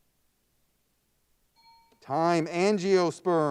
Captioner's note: timer bell dings